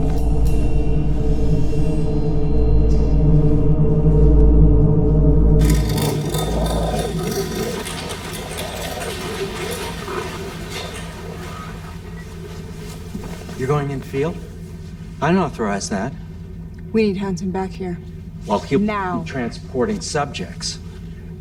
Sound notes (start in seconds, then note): 0.1 tense dramatic music continues; 7.4 Torrez grumbling